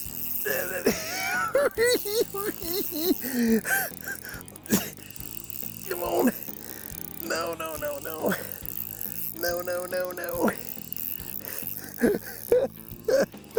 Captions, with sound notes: [giggling] Come on! No no no no! No no no no!!